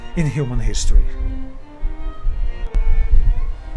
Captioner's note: wind blowing